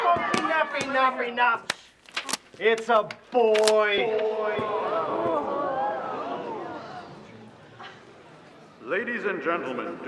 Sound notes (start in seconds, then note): 4.8 audience gasping